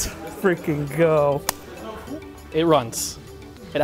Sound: hands slap together

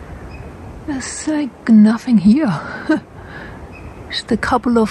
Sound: laughs

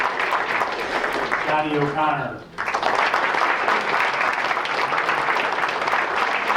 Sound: applause

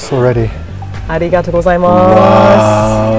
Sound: speaking in foreign language

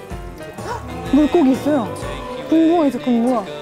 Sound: surprised

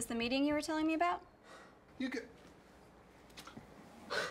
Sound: huffs

